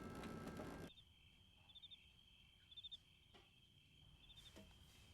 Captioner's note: crickets chirping